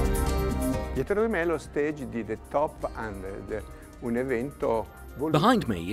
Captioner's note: speaks in foreign language